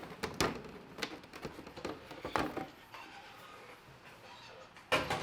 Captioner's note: box clicking open